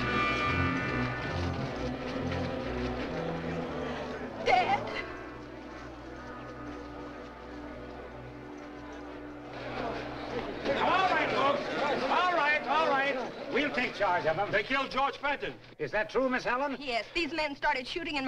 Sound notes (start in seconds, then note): 4.2 sobbing